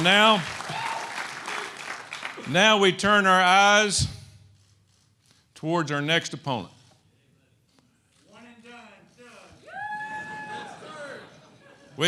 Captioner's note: applause